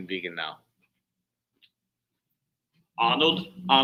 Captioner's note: imitating Arnold's accent